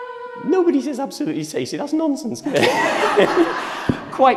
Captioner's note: laughter